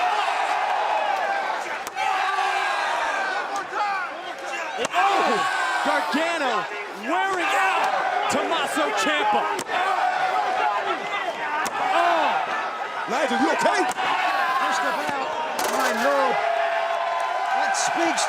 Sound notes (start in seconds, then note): 2.8 crowd chatter